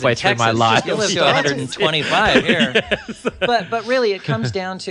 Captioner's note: laughs